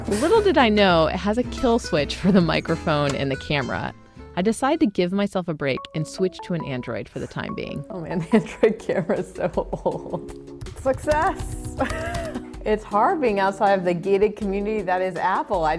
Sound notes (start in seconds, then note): 8.1 laughs